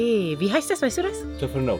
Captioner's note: speaking German